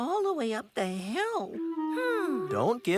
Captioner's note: whimpers